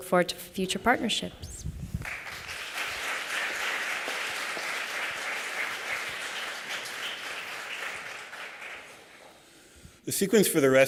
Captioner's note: applause